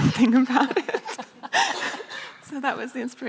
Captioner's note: laughing